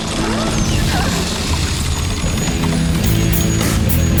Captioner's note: gasping